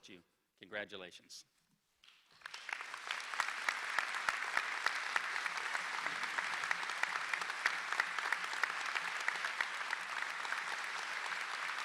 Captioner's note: applause